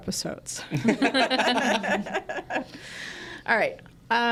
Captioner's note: group laughing